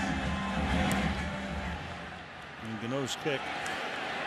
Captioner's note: cheers